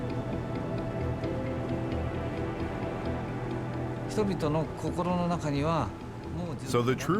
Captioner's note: speaking Japanese